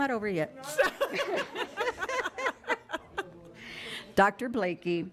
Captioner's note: group laughs